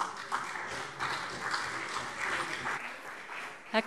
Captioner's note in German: Beifall CDU und vereinzelt BÜNDNIS 90/DIE GRÜNEN